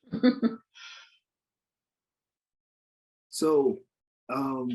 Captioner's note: participant laughs